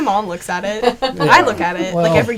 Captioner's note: laughing